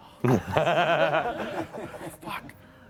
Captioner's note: laughter